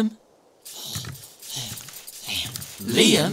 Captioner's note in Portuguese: Respirando profundamente